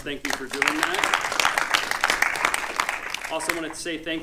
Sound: audience applauding

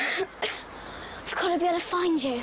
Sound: Bess coughing

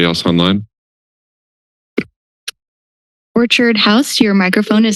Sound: silence

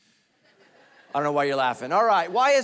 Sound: congregation laughing

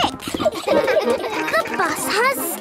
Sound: kids laughing

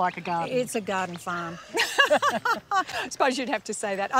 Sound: laughs

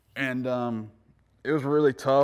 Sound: none

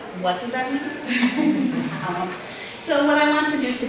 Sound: audience laughter

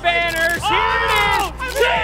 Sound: cheering

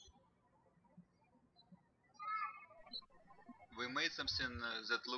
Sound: birds chirping

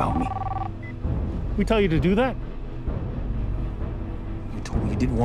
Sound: beep

